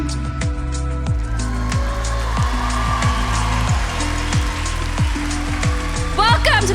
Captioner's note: applause